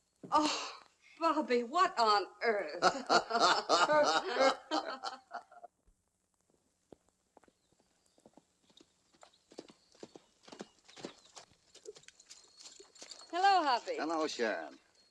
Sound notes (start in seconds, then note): 2.8 laughter; 8.0 horse trotting